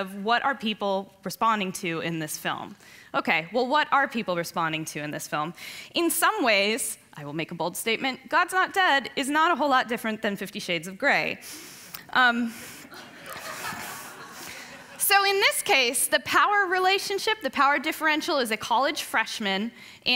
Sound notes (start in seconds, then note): 12.9 laughing